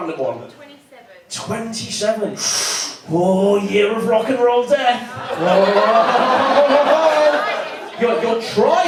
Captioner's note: in breath